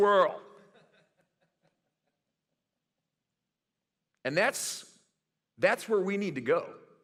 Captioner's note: laughter